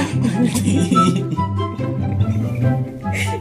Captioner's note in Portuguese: risos